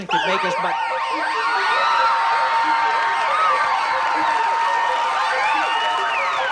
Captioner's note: applause